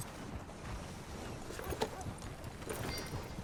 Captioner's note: none